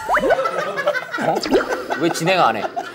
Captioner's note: laughing; scared, Laughing